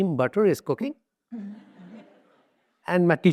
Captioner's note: audience laughs